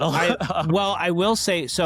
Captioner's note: laughs